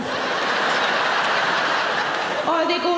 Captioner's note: audience laughing